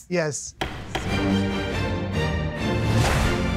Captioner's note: gavel bangs